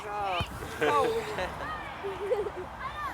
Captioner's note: laughter